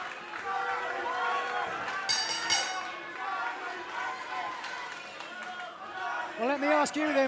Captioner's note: bell ringing